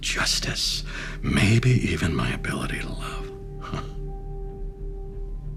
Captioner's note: chuckles